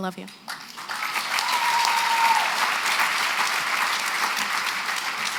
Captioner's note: applause